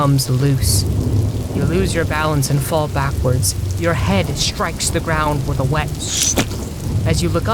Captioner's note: splurt